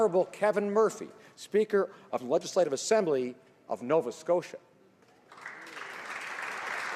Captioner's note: applause